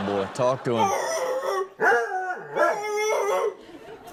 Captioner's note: man barks; dog barks; dog grunts; man barks